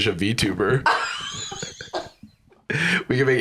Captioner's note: laughs